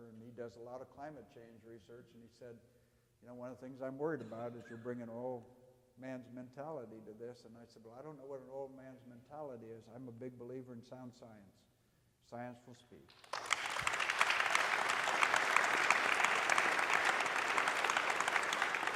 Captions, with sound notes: and he does a lot of climate change research and he said, you know, one of the things I'm worried about is you'll bring an oil man's mentality to this and I said, well I don't know what an oilman's mentality is, I'm a big believer in sound science, science will speak. (audience applauding)